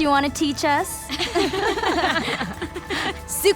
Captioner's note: laughing